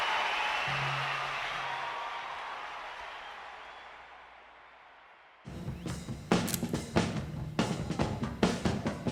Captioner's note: crowd roars